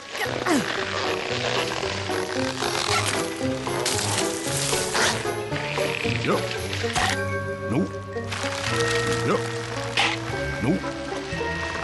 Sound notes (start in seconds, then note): 7.0 chomp; 10.0 chomp